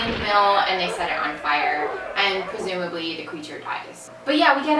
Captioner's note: clip: the monster is screaming in fear and pain